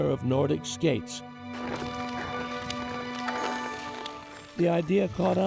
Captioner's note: skate blades carving ice